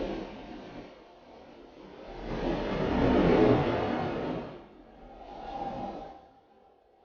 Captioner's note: poignant music; wind howling